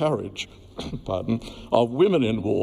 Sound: coughs

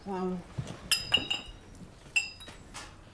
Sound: glasses clinking

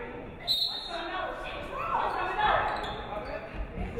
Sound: referee whistles

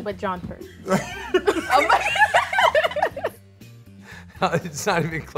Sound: Will, Demi and Saniyya laugh

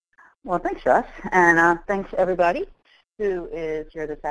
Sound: voiceover

